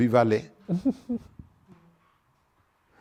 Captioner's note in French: rires